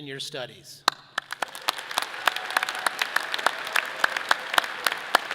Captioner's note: audience applauding